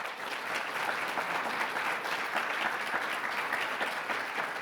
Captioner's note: audience clapping